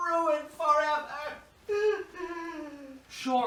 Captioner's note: she sobs